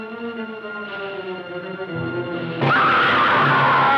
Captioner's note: scream